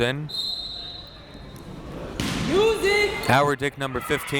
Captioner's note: whistle tweeting